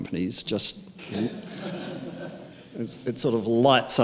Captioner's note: audience laughing